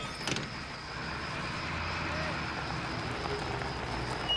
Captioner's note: insects buzzing